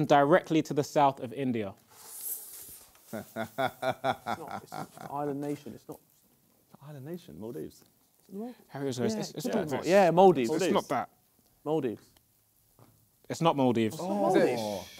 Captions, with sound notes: directly to the South of India. (laughs) - Island nation, it's not- - Island nation? Maldives. - Yeah, Maldives. - It's not that. - Maldives. - It's not Maldives.